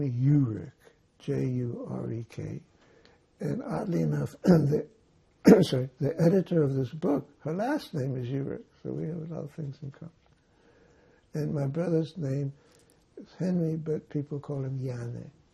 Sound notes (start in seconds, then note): 5.4 clears throat